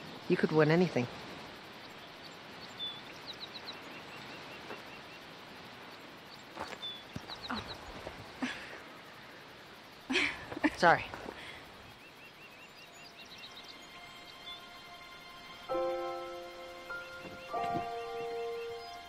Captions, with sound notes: - You could win anything. (birds chirping) (heads thumping) - Oh. (Nikki laughs) - Sorry. (serene music)